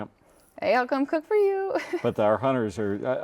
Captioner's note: laughs